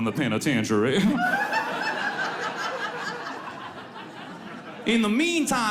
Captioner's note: audience laughs